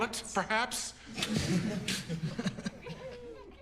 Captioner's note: laughter